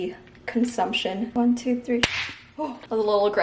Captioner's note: lid snaps